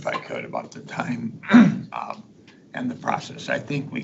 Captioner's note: clears throat